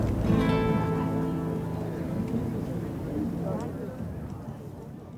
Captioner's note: crowd chatter fades